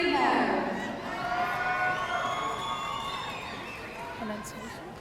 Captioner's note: audience cheering